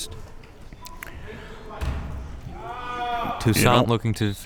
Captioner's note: crowd members shouting